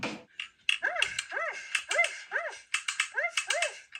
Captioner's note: dog barks